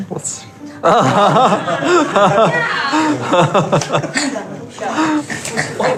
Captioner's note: laughing